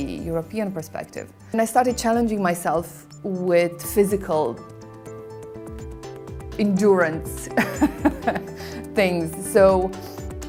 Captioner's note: laugh